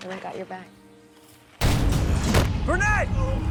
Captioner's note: leaves crunch